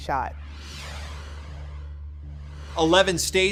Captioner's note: screen whooshing